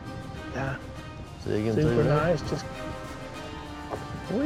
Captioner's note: all chattering